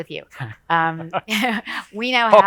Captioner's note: both chuckles